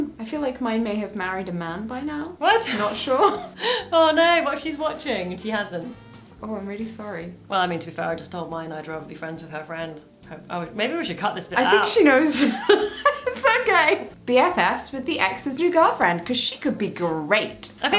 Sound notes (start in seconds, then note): 12.4 laughing